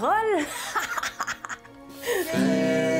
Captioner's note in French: rire maléfique